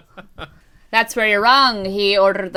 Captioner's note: laughter